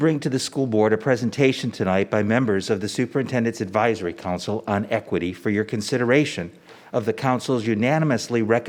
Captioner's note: none